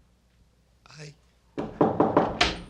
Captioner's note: knocks on door